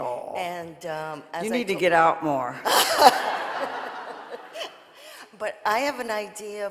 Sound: audience laughing

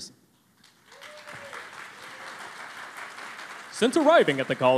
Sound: cheering and Applause

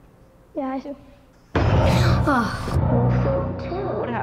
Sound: gasps

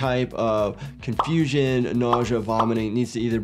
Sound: graphic popping

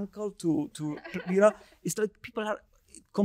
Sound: lady chuckling

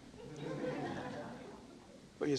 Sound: laughter

